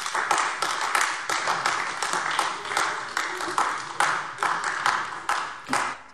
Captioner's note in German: Beifall AfD